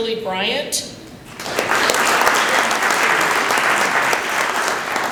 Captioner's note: applause